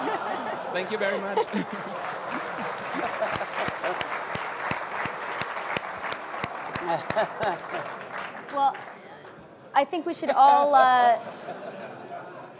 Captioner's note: applause